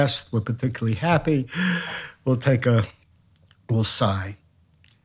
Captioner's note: inhales